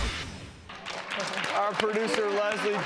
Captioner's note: applause